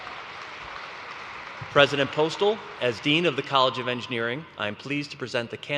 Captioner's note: applause